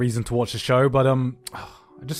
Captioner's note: clicks tongue